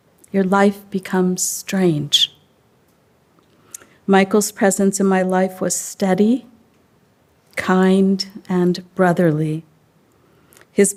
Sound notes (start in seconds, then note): none